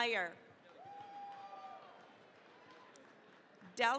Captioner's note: cheering, applause